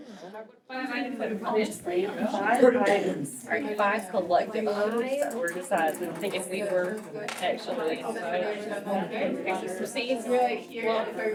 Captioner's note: groups discussing